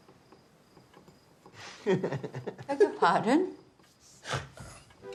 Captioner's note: laughs